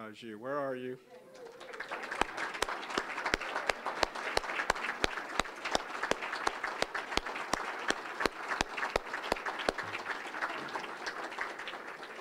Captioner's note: applause